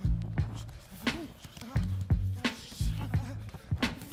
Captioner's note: group panting